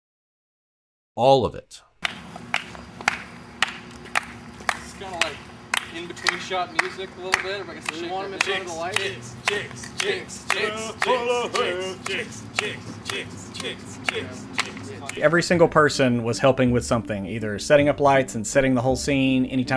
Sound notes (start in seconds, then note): 2.0 rhythmic clapping; 9.2 chanting